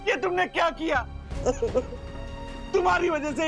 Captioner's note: sobbing